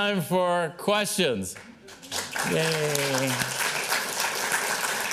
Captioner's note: applause